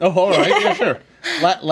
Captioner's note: group laughs